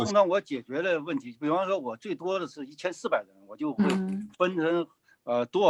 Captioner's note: speaking in foreign language